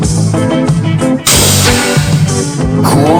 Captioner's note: whooshing